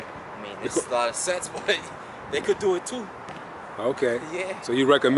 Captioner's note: chuckles